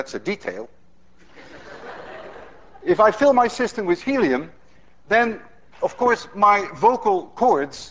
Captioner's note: class laughs